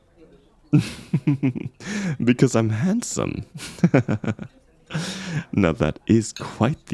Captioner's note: chuckle